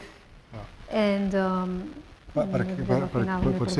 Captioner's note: speaking spanish